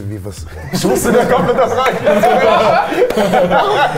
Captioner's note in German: Lachen